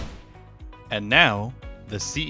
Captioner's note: whoosh Sound